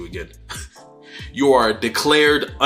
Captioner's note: laughs